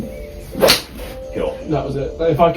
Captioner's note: club whacks